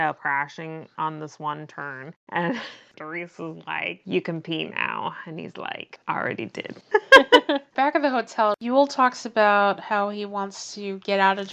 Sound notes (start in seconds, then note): 6.9 laughs